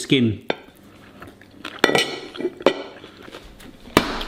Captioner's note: chewing; cutlery clanks; hand slaps